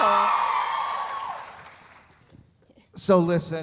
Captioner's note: audience cheering; audience applauding